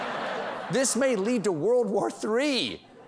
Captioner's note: laughter